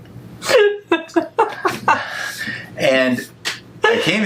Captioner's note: laughing